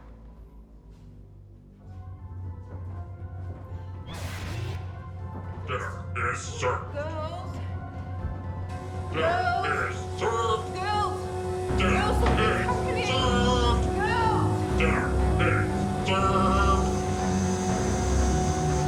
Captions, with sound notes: - There is dirt. - Girls. - There is dirt. - Girls, we have company. - There is dirt. (snake hissing)